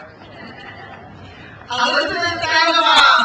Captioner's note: crowd cheers